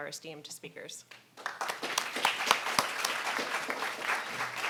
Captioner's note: audience clapping